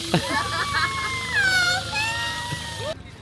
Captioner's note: screams